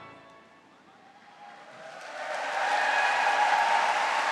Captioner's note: applause and cheering